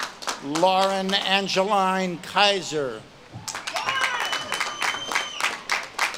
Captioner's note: audience claps and cheers